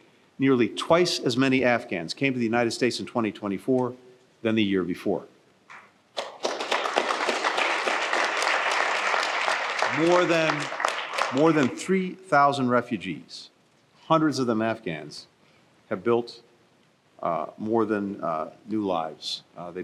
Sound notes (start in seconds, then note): 6.1 applause